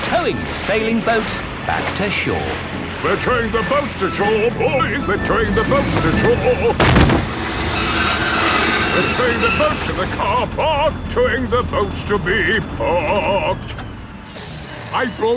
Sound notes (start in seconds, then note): 6.6 thud